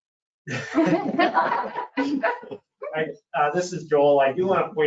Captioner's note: laughs